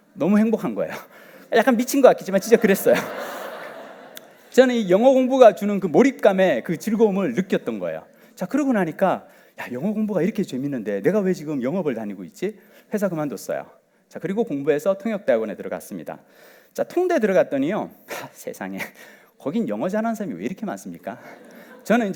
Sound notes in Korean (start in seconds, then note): 2.4 웃음